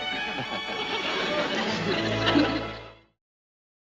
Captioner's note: laughing